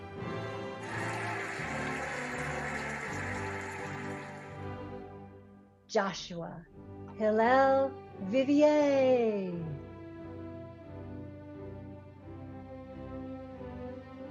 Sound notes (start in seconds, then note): 0.7 cheering and applauding; 11.4 cheerful music